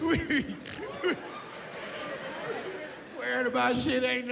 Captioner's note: laughs